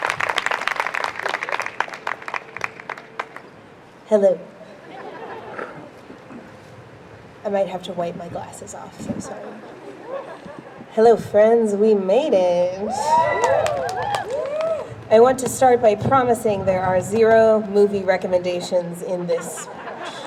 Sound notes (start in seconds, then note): 12.8 crowd cheers; 19.1 crowd laughs